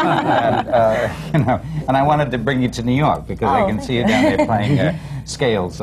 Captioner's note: laughter